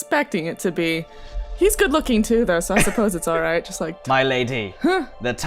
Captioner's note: laughter